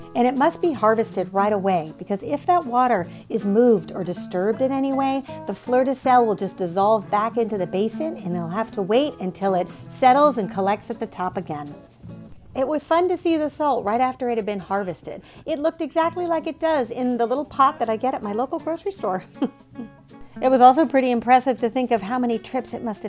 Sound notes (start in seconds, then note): 19.2 chuckles